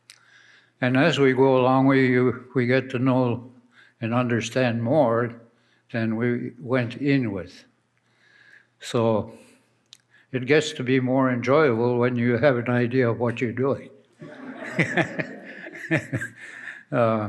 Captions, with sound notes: And as we go along we get to know and understand more than we went in with so it gets to be more enjoyable when you have an idea of what you're doing [laughs]